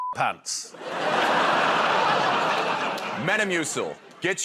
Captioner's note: laughter